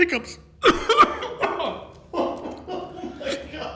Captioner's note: coughs; laughing